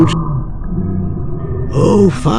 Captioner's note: creature growls